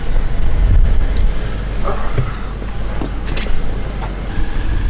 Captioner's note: car engine rumbling